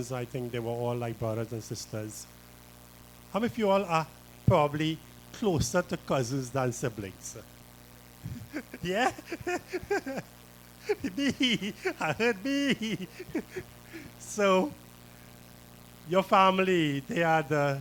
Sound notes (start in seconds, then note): 8.2 laughter